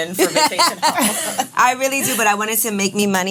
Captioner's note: laughs